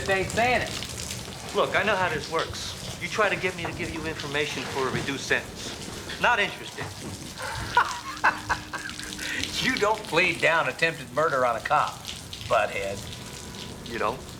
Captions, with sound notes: You just ain't sayin' it. Look, I know how this works. You try to get me to give you information for a reduced sentence. Not interested. (laughs) You don't plead down attempted murder on a cop-- butthead. You don't?